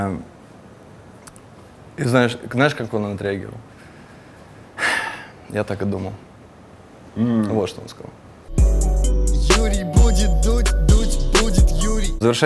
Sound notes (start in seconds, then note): 3.8 exhales; 8.5 title theme